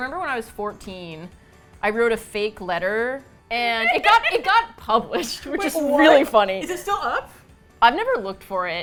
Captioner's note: laughs